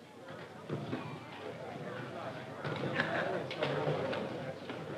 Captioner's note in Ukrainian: балаканина натовпу